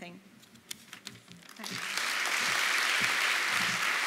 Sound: applause

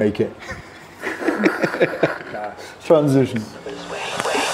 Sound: people laughing

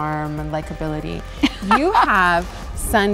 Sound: laughs

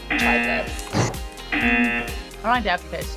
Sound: buzzer

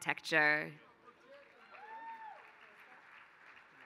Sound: applause

